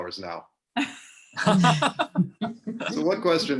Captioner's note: group laughing